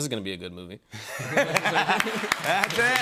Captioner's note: laughter